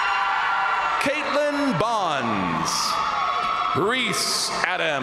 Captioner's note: crowd cheering